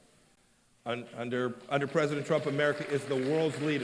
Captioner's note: applause